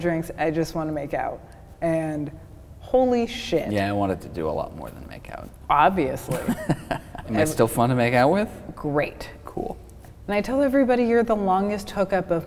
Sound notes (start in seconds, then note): 6.3 laughing